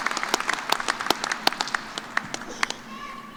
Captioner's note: cheers and applause